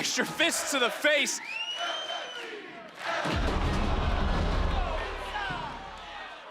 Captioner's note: crowd chants "LFG"